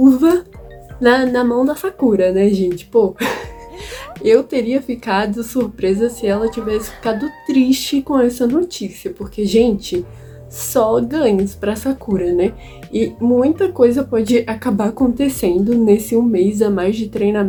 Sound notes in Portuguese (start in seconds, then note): 3.2 risos